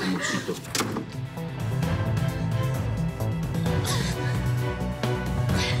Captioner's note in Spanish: ruido al cerrar la puerta